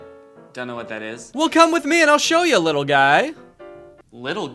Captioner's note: voiceover